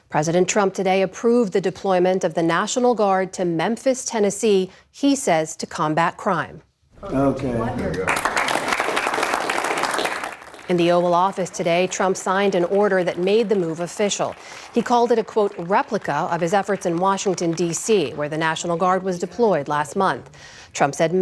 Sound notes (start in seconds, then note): 9.0 applause